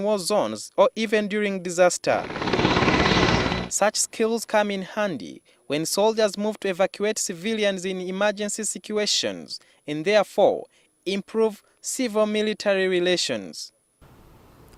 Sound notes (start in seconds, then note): 2.2 helicopter_